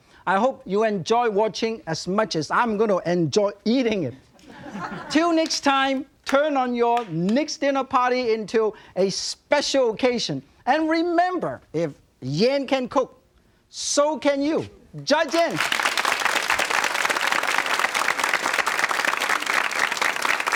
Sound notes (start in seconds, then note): 15.3 crowd applauds